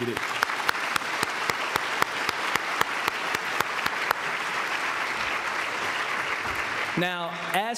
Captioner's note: applause